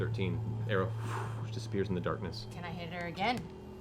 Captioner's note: whoosh